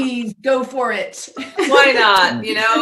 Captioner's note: laughing